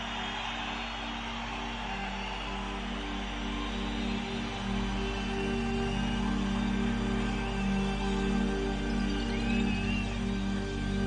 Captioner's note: cheering